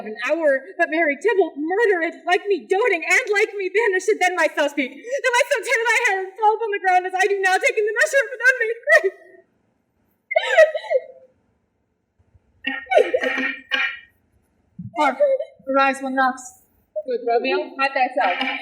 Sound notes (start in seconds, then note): 10.3 sobs; 12.5 knocking